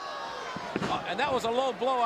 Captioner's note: crowd gasps